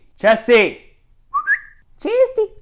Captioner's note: whistles